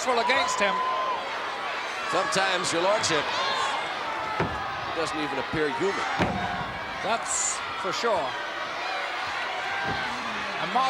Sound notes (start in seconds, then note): 6.1 body slams; 8.4 crowd cheering